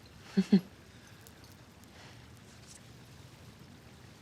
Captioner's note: Maddy chuckles